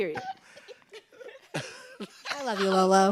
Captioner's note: group laughing